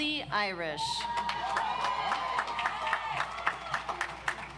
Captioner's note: audience applauds